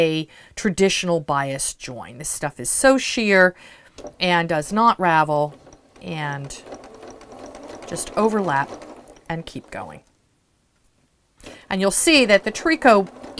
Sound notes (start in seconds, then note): 3.9 sewing Machine Sounds